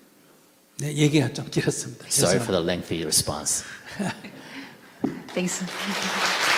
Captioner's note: laughter